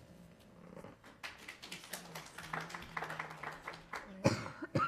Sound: attendees clapping

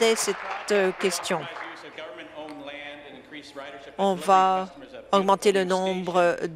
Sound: applause

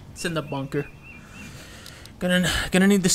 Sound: takes a deep breath

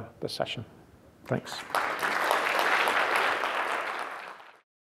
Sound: applause

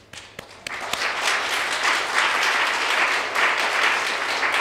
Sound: audience applauding

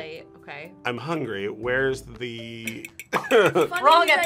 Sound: laughs

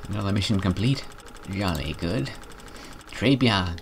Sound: posh voice; French

